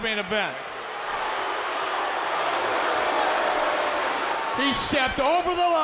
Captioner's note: crowd boos